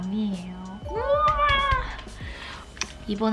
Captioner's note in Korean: 두근 두근